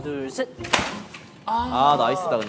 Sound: clap

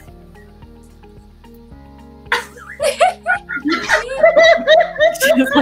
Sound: laughs

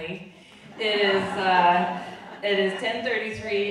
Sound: audience laughing

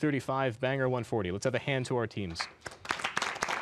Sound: applause

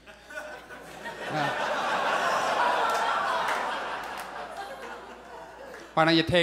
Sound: audience laughs

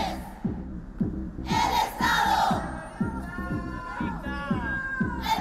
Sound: speaking foreign language

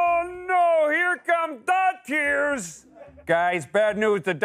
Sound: laughter

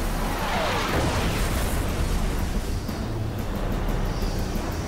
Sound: explosion

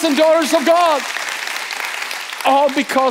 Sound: congregation applauding

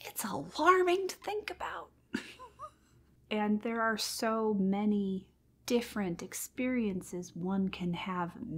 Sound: overwhelmed and derisive laugh

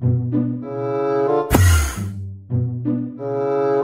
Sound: enderman sound

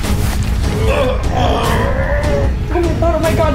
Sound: grunting

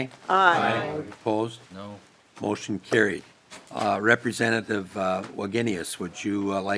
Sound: chorus of ayes

